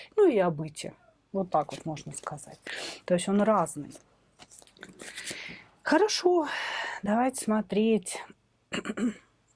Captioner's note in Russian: откашливается